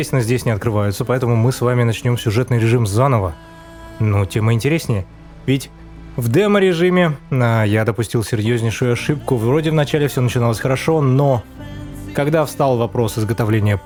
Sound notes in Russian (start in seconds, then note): none